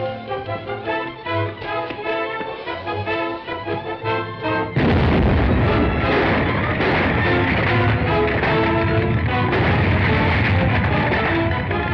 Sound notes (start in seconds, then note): 4.7 explosion; 7.6 ground rumbling